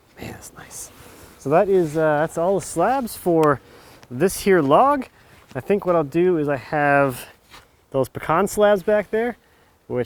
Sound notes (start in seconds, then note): none